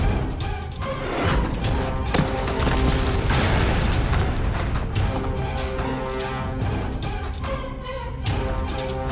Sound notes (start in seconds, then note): 2.1 falls